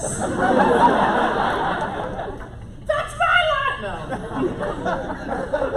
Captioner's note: laughter